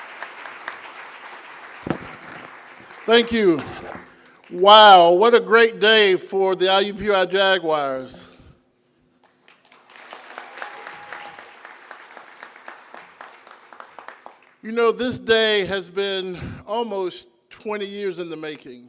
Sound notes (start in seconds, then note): 0.0 applause; 9.2 applause